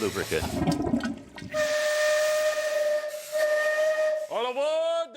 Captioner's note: toilet flushing; horn whistling